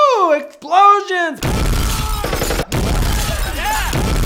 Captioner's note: explosion sounds